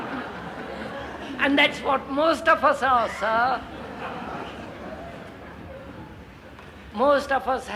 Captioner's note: laughter